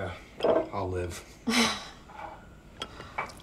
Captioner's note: Lucy laughs; liquid pouring